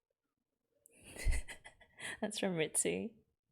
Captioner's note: laughs